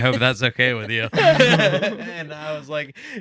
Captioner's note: laughing